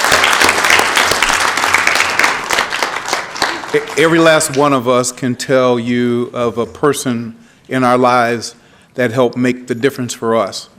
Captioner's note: applause